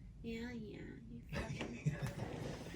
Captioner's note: laughs